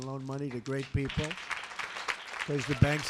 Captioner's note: applause